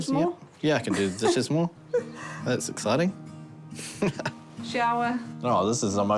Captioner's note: chuckles